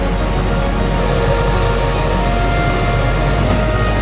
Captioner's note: water trickling; tow truck winch whirring; branches snapping